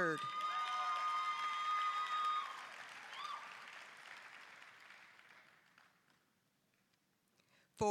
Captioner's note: applause, cheering